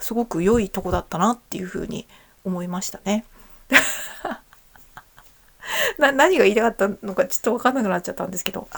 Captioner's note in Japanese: 笑い